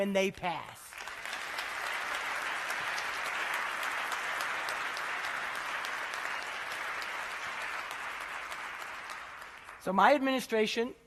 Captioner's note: applause